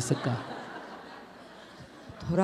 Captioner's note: audience Laughter